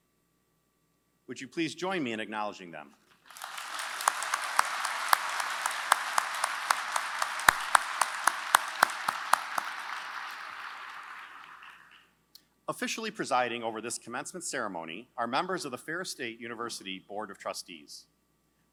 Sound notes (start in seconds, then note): 3.2 applause